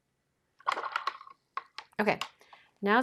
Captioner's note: water sloshing